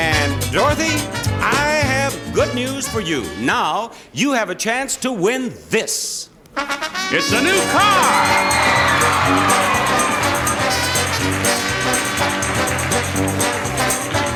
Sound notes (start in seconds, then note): 7.0 upbeat music; 7.2 audience applauding